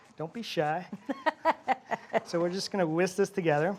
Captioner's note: Julia laughs